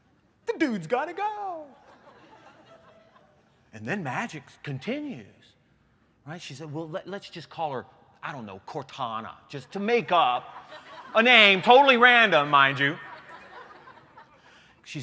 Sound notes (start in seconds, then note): 1.8 laughter